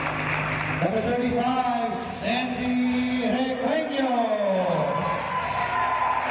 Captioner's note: cheers and applause